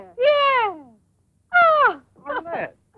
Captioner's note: laughing